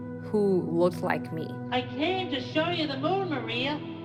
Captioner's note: soundbite of tv show, "sesame street"